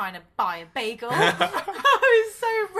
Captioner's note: laughs